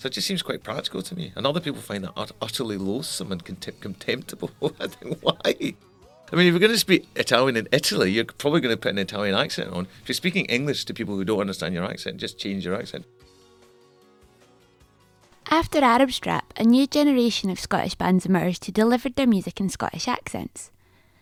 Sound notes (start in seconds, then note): 4.3 laughs